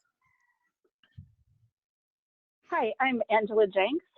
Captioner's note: pause